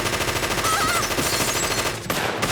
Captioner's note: gunshots; screaming; gunshots